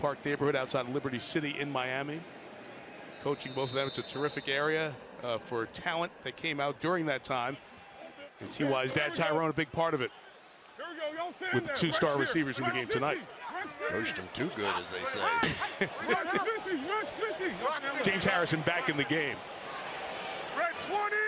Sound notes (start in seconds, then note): 15.0 laughs